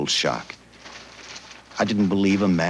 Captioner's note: paper rustles